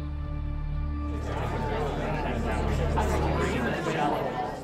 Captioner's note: parents chattering